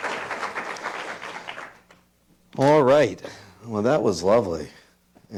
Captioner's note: applause